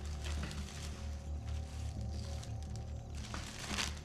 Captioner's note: paper rustles